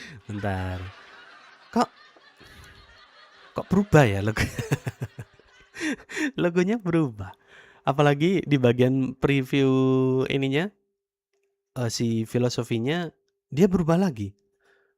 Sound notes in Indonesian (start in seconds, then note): 0.0 tertawa; 5.7 terkesiap